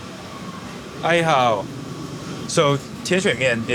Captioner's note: speaking in foreign language